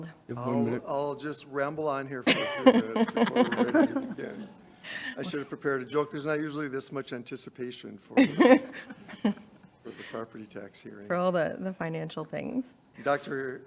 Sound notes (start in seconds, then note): 2.2 board members chuckling; 8.2 board chuckling